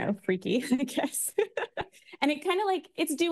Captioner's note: laughs